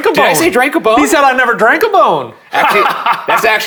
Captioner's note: laughing